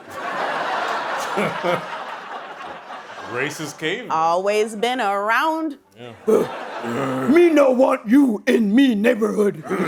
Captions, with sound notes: [laughter] - Racist caveman. - Always been around. [grunting] Me no want you in me neighborhood!